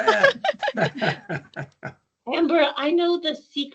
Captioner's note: laughing